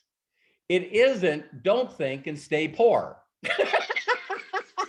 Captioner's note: laughs